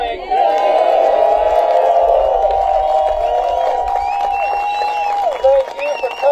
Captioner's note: applause